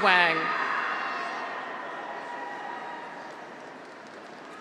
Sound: graduates cheer

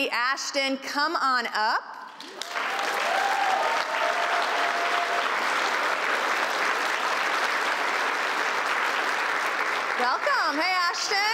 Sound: applause

